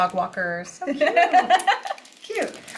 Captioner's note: laughs